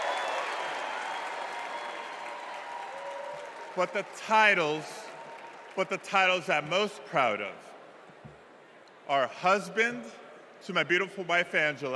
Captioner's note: cheers and applause